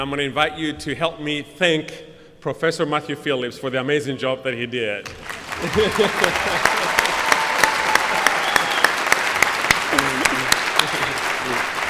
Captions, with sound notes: going to invite you to help me thank Professor Matthew Phillips for the amazing job that he did. [APPLAUSE]